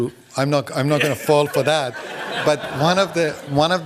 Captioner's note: laughter